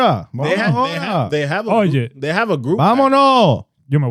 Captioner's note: speaking In Foreign Language